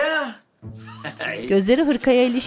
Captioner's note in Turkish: Gülme Sesi